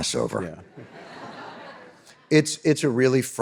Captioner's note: audience laughing